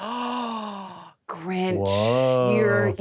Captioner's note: grasps